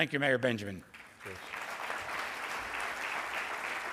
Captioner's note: applause